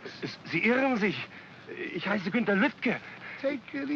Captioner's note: speaking in German